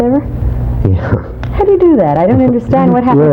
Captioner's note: chuckles